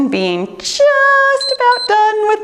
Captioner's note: timer beeps